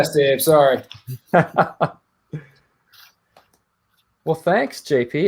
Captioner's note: laughing